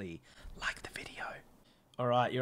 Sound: whispers

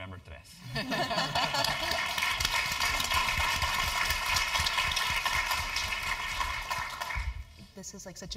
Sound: laugh; applause

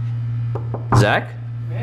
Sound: knocking

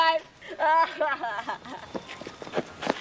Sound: laughing

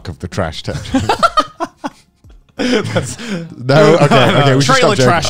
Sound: laughing

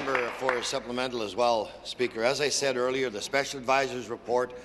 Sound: applause

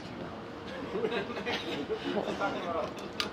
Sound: laughing

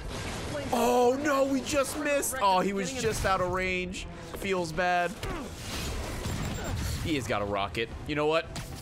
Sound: gasps

